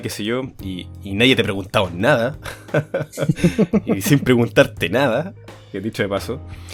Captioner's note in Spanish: risas